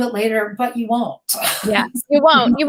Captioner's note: laughing